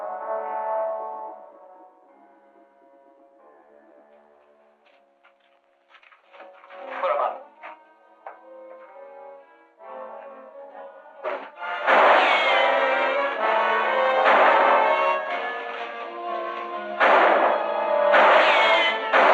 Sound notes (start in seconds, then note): 11.8 gunshot; 11.8 tense music; 16.9 gunshots